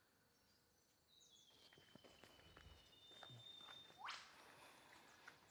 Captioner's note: birds chirping